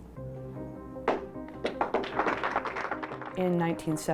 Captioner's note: reverberant piano keys build tension; supporters clap